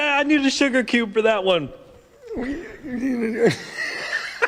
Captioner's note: laughter